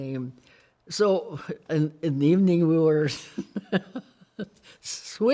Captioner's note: laughs